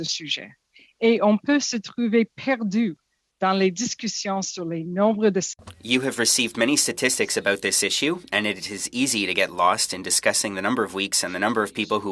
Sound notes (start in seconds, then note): 3.3 speaking French